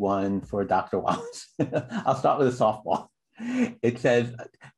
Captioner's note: laughter